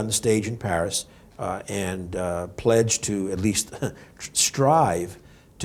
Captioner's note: laughs